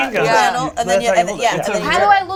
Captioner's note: overlapping chatter